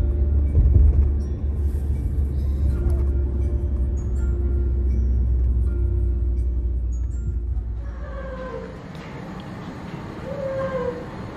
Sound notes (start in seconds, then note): 7.7 squealing